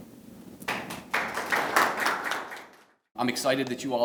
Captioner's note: applauding